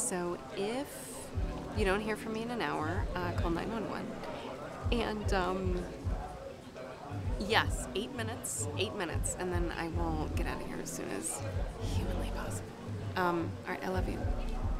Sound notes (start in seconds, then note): 11.4 whispers